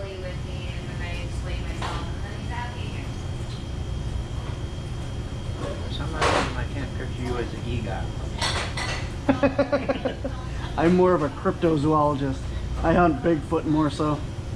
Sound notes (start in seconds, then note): 9.2 laughing